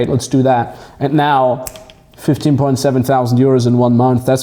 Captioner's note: fingers snapping